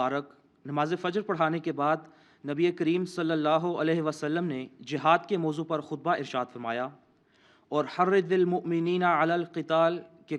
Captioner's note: Arabic